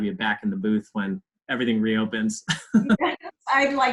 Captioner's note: laughs